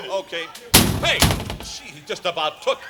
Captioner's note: slamming door